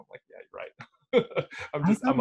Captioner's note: laughs